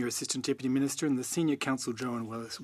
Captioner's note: speaking French